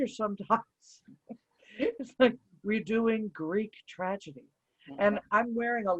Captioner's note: laughs